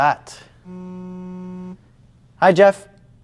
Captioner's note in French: Téléphone sonne